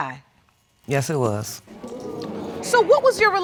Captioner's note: audience exclaims